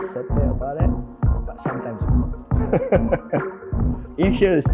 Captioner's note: laughs